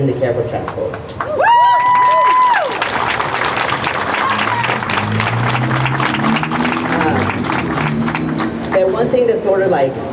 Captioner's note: crowd cheers